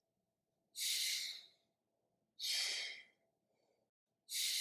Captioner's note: air/breathing sounds